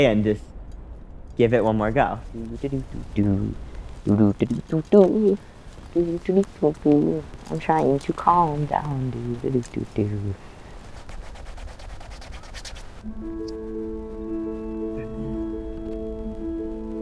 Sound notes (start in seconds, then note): 2.5 humming "Camptown Ladies"